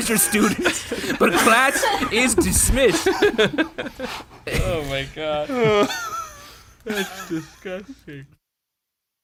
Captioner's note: laughs; laughs